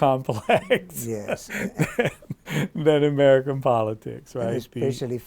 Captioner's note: laughs